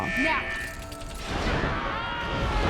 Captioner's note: whirring; screaming